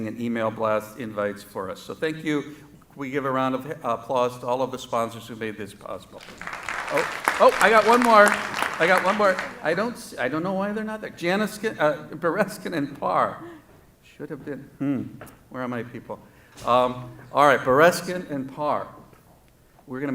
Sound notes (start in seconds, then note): 6.2 applause